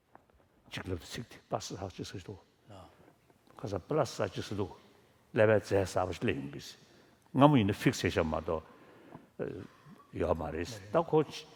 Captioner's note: foreign Language